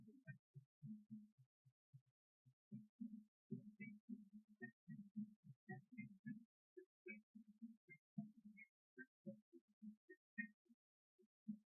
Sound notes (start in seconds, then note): none